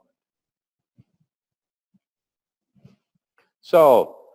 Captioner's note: pause